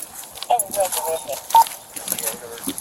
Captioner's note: radio chatter